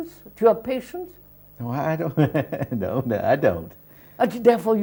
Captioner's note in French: Rires